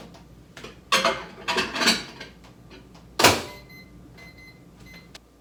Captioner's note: utensil clattering; electronic beeping